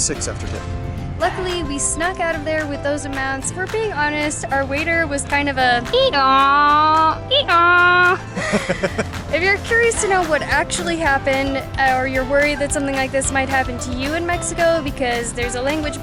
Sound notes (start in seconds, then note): 6.7 donkey sounds